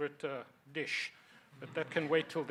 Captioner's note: audience chuckles